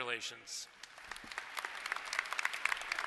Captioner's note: applause